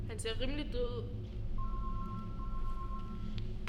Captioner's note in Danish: Mobil ringer